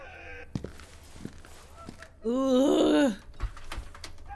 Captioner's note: groaning